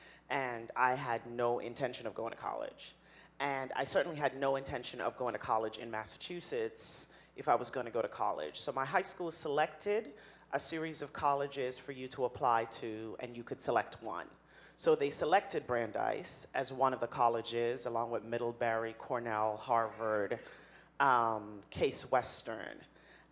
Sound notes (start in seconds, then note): none